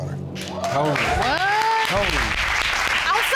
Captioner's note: audience applauds